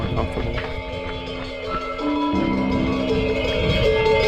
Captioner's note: bells ringing